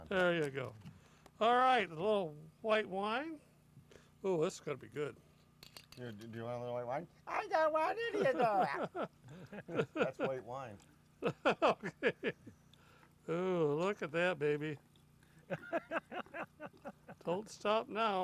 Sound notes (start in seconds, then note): 11.2 laughter